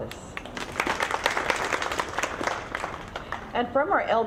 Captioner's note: audience clapping